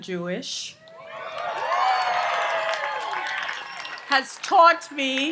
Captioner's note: audience applauds and cheers